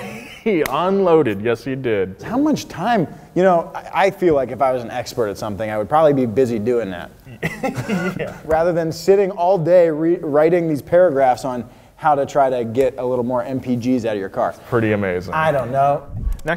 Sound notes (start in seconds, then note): 0.0 chuckles; 7.2 both laughing